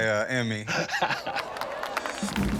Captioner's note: laughs